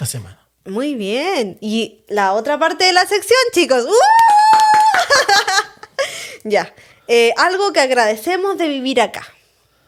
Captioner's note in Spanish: risas